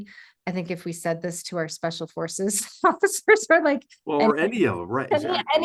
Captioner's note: laugh